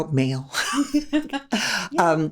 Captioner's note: laughing